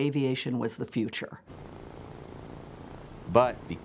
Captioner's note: propellers whirring